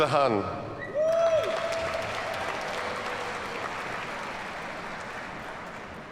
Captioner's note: audience cheers and applauds